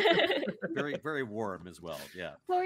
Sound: laughing

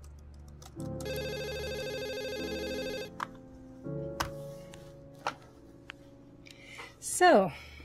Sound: phone rings

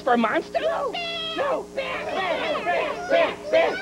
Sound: all chanting

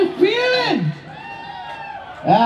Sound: cheers

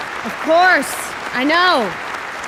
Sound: endless applause

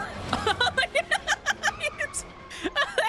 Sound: laughing

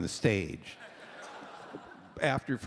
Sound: laughter

